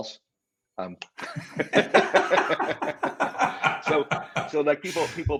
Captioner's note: both laugh